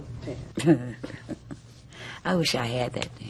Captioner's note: laughs